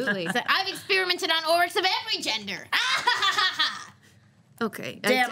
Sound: hysterical laughter

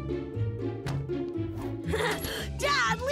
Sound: chuckles

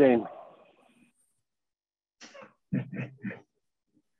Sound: laughs

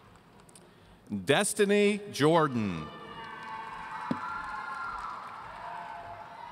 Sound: audience cheering

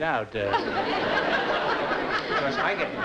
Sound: laughter

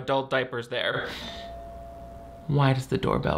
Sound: door bell rings

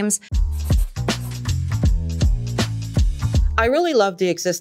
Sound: pencil writing

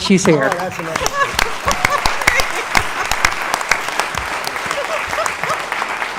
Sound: applause

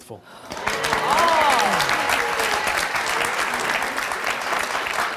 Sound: audience applauding

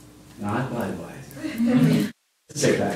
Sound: laughter

